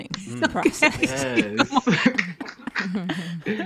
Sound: laughing

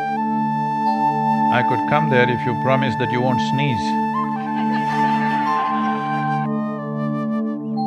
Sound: laughter

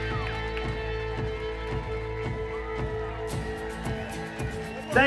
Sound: crowd cheering

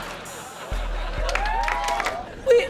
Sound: cheering, applauding

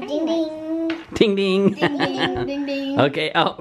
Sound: laughs

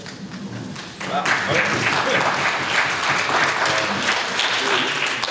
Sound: audience applauds

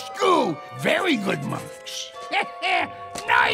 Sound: chuckles

